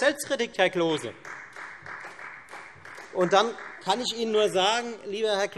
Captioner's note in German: Beifall Freie Demokraten